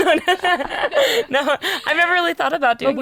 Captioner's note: laughing